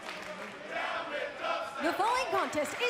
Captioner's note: fans chanting